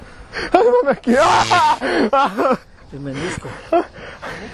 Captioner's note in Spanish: Gritos